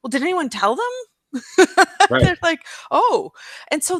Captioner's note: laughs